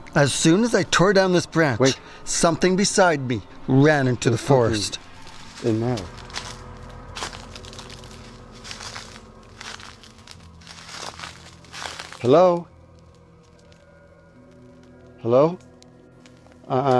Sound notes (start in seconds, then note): 6.6 crackling sound; 6.6 dramatic music